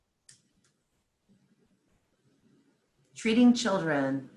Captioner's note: silence